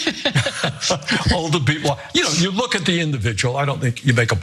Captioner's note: laugh